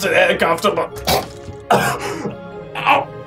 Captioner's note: gag; cough